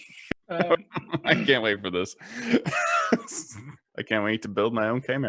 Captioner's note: laughs